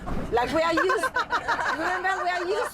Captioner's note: laughter